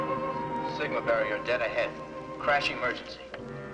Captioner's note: loudspeaker